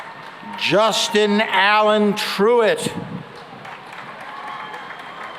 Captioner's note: cheering and applause